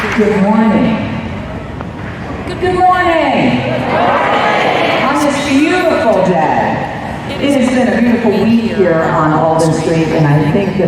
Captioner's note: applause